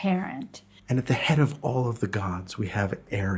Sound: voiceover

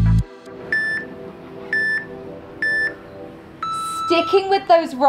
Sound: timer beeping

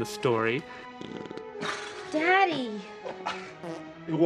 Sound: fart noises; fart noises

